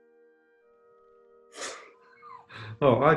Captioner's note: sniggering